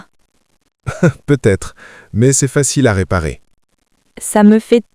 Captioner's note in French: rire